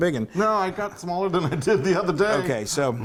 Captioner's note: laugh